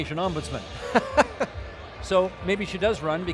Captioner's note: laughing